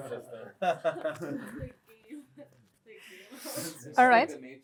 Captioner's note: laughter